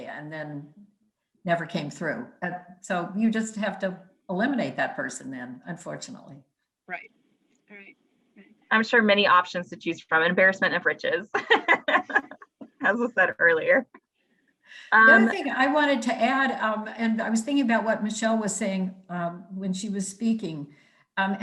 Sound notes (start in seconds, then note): 11.3 laughing